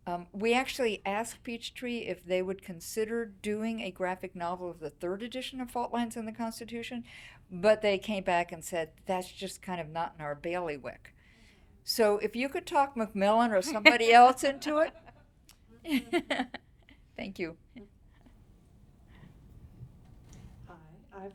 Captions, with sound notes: We actually asked Peachtree if they would consider doing a graphic novel of the third edition of Fault Lines in the Constitution, but they came back and said, "That's just kind of not in our bailiwick." So if you could talk MacMillan or somebody else into it. (laughing) Thank you. - Hi, I've been flipping through.